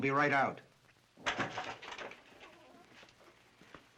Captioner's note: chair rattles